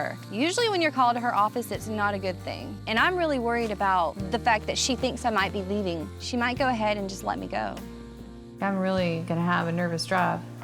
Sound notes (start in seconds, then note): none